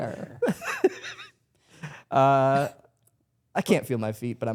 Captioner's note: laughs